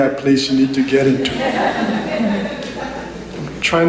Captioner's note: laughter